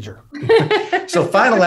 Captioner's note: Gena Laughs